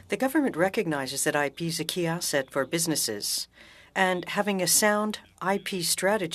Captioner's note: speaking French